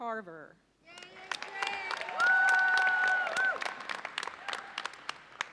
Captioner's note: audience cheers and applauds